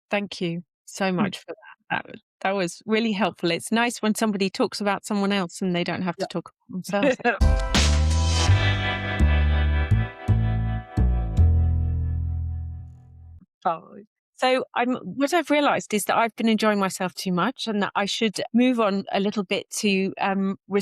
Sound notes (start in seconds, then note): 6.9 laughs; 7.3 bright music